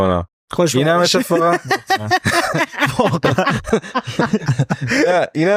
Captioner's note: laughs